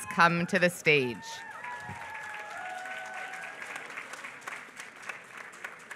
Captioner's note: applause